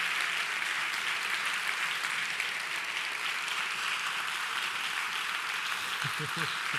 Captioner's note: applause